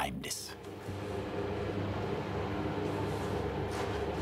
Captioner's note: machine whirring in the background